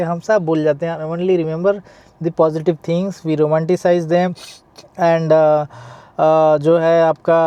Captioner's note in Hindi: नाक से की जाने वाली आवाज़